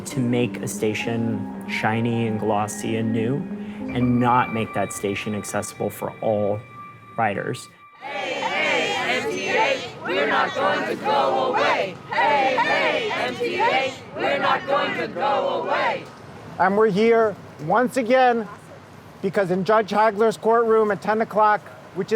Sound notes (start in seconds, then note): 7.9 multidão